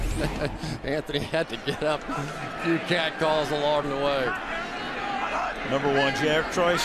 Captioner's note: laughs